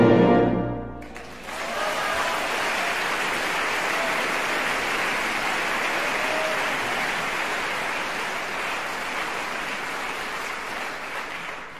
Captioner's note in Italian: applauso